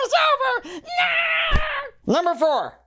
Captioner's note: screams, thud